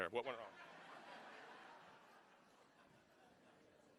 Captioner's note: laughing